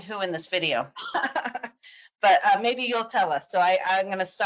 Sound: chuckles softly

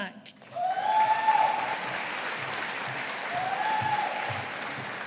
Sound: audience applauding

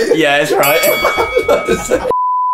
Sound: ding ding; beep

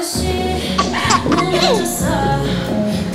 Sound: tries holding laughter

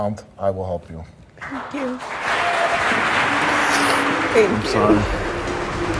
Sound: applause

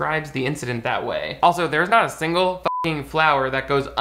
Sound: beep

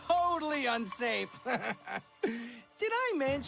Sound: evil laugh and deep breath

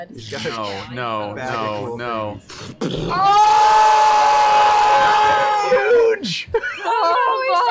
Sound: yelling

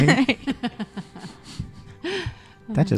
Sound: laughter

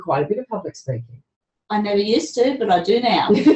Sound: laughs

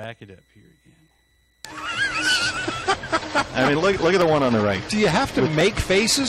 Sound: laughter

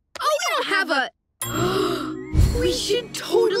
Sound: gasping

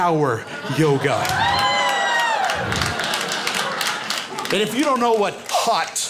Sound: crowd cheers and claps

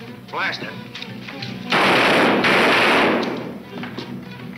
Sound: gun fires

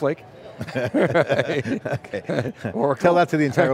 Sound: laughing

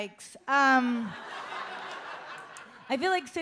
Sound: audience laughs

